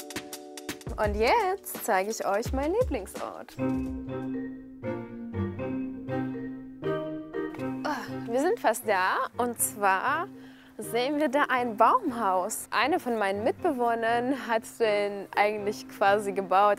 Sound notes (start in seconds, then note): 3.5 tense music; 7.8 gasps